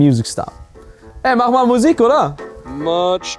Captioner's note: speaking in foreign language